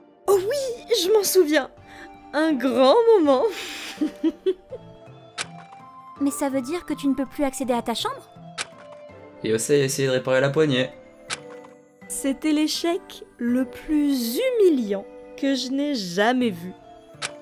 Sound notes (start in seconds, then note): 3.6 laughs